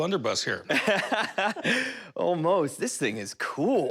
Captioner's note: laughs